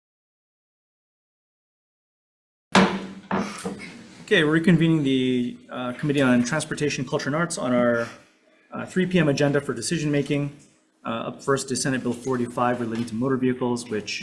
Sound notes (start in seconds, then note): 2.7 gavel thudding